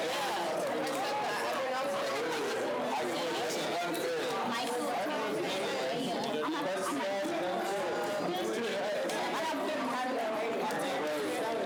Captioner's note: students chatter